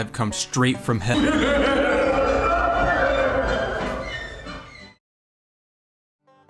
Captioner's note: devilish laughter